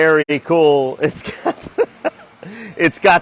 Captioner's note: laughing